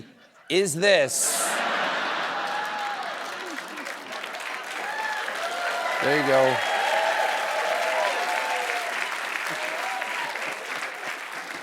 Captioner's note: cheers and applause